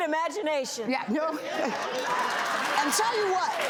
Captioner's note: audience applauding